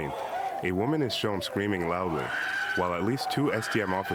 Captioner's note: screams